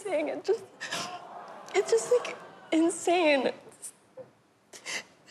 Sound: audience groans

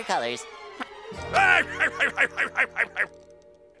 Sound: laughs

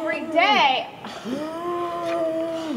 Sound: groaning

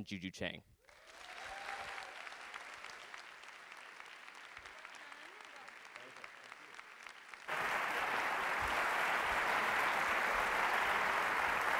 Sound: applause

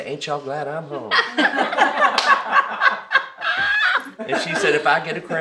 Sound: all laugh

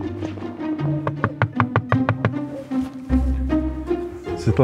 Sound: knocking

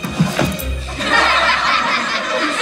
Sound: laughing

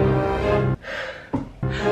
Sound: dramatic music; sighs; dramatic music

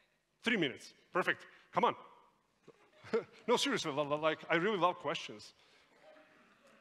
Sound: laughter in the audience

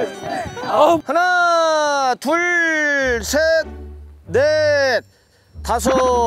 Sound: taking breaths to relax

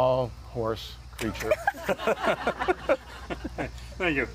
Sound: laughing

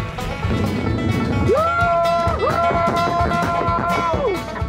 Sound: cheers

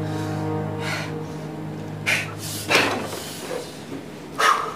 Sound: panting; exhales

